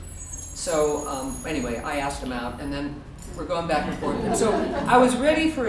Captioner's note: audience laughter